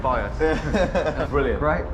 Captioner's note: laughs